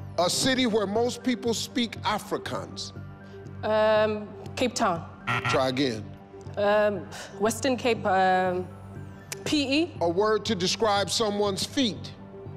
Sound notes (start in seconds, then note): 5.2 buzzing